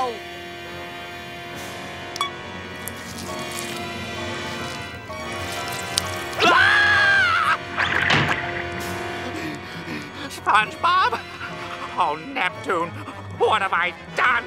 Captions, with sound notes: [screaming] [panting] SpongeBob? Oh, Neptune, what have I done?